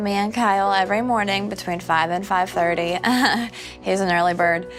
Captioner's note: laughs